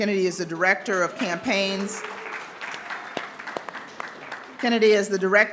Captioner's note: audience clapping